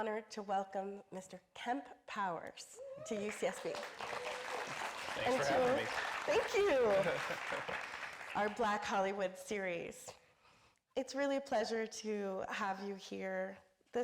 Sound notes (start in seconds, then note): 4.6 audience applauding; 6.6 laughing